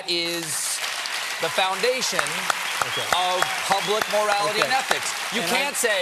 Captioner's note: applause